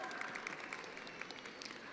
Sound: attendees applauding

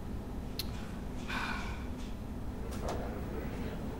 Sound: sigh

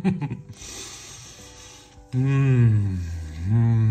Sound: laughs; inhales

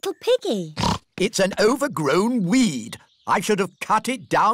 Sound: snorts

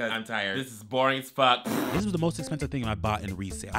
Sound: blows raspberries

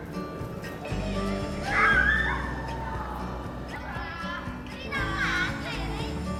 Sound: laughs

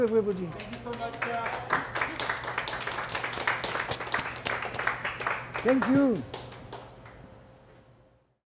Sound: applause

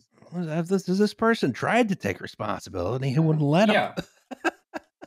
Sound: laughs

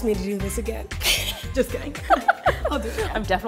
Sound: laughing

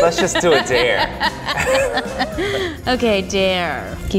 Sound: laughter

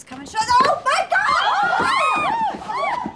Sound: all shout

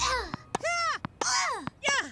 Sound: effort grunts

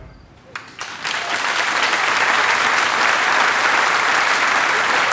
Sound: audience applauding

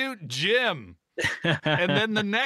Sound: laughing

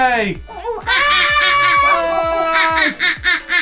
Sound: imitates a monkey

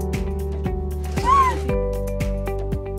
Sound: baby monkey whistling

